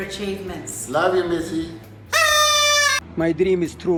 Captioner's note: trilling whistle